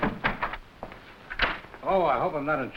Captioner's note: door creaking